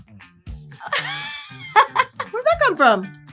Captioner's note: laughs